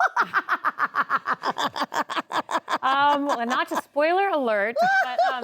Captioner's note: laughs